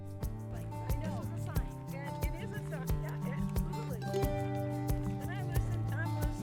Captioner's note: light uptempo music; group chattering